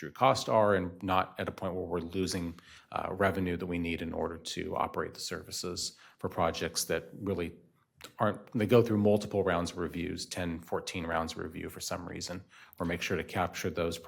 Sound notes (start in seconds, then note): none